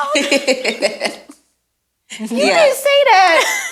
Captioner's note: laughing